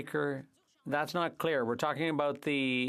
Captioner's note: speaking French